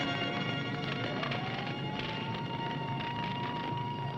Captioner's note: police sirens